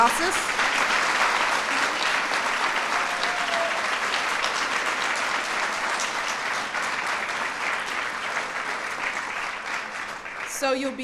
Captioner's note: applause